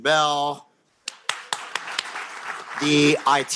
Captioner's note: applause